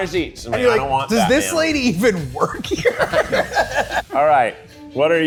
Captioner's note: laughs